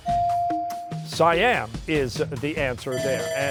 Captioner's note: bell ringing